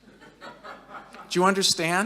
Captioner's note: audience laughing